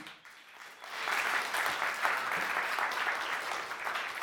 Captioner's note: audience applauding